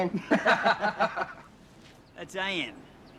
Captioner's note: tradies laughing